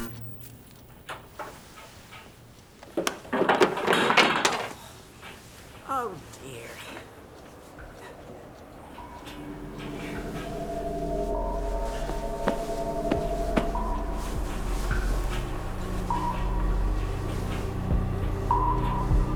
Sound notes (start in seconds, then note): 0.1 television clicking; 2.8 cane clattering; 10.0 tense music